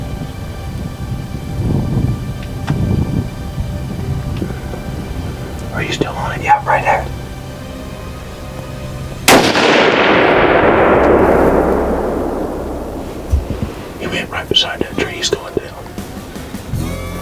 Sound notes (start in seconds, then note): 5.7 whispering; 13.7 whispering